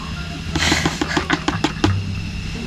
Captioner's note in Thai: ขำ